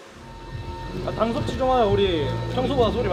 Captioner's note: BuZz